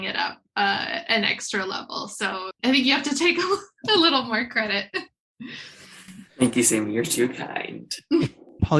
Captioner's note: laughter